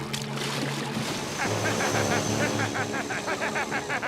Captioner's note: laughing